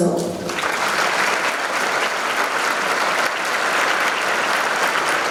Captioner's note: audience clapping